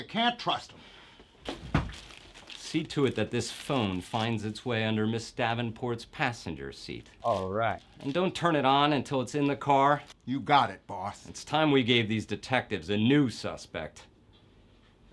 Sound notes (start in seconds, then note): none